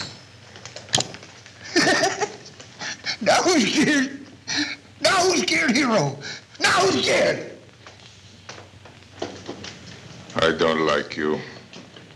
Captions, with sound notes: - [laughs] That was your-- Now, who's scared, hero? Now who's scared? - I don't like you.